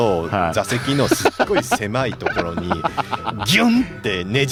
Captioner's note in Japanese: 笑い